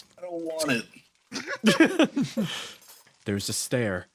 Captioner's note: laughs